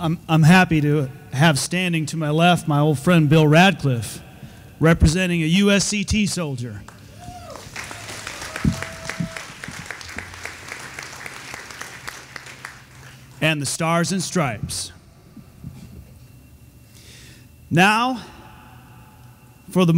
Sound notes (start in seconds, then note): 7.3 audience applauding